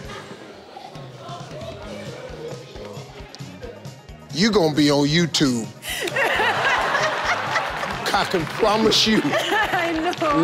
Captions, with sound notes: You gon' be on YouTube. (audience laughing) I can promise you. - I know.